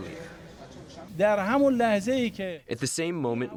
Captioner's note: through translator